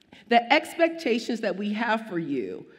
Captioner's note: none